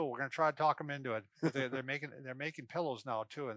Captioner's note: laughs